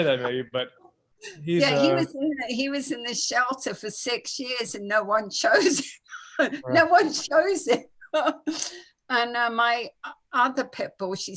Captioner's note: laughing